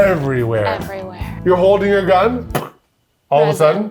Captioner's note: imitates gun fire